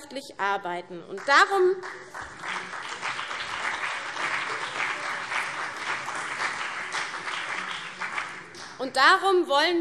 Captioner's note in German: Beifall CDU und BÜNDNIS 90/DIE GRÜNEN